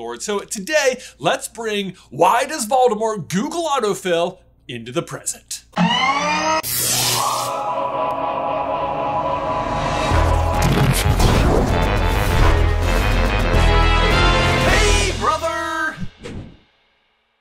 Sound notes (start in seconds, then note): 5.8 machinery noise; 6.6 sizzling electricity noises; 10.0 current Intro Theme Music